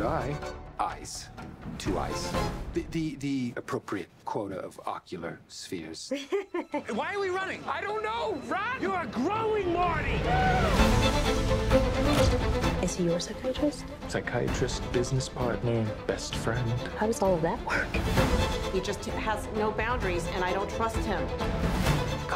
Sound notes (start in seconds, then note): 6.1 chuckles; 9.9 cheers